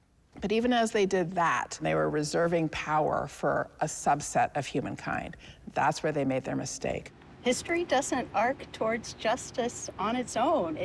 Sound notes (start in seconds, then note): none